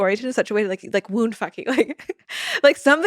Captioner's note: laughs